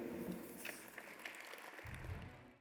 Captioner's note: audience applauding